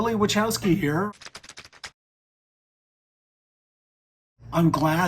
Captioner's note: keyboard typing